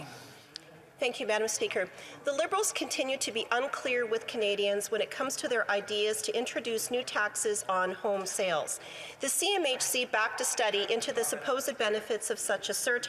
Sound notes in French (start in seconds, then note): 3.6 voix de l'interprète